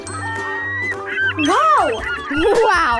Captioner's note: birds chirpping